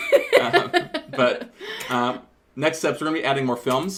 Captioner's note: laughter